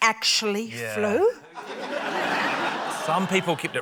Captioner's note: laughter